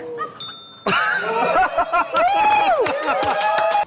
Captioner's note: laughter, applause